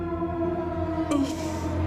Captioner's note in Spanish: Quejidos